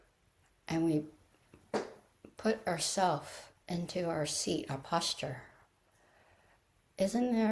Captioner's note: taps floor for emphasis